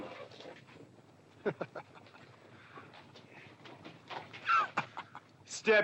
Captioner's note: Bunny scoffing